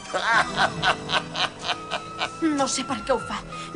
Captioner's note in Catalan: riure